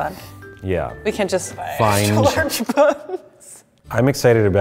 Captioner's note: laughing